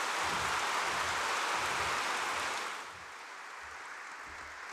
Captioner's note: applause